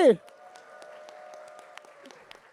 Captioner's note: applause